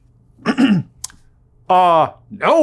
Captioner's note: clears throat